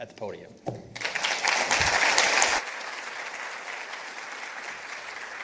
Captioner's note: participants applauding